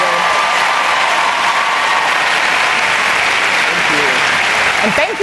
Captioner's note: cheering and Applause